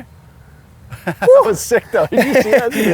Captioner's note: laughs